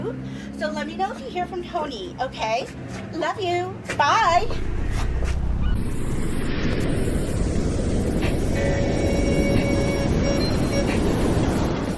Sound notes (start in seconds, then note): 6.3 waves crashing; 10.7 upbeat music